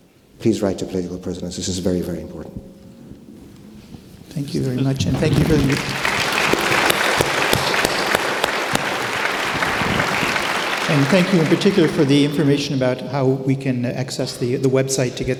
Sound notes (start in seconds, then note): 8.0 audience applauding